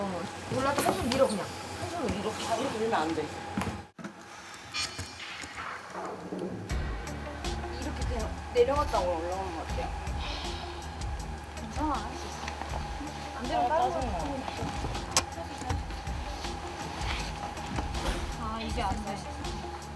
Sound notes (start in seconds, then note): 10.2 sigh